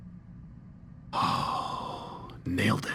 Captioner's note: sigh